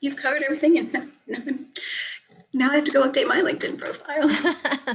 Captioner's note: laughs